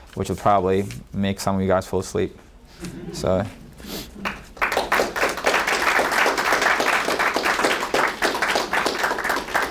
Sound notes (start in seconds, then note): 2.8 audience members laughing; 4.2 audience clapping